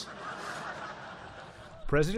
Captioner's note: laughter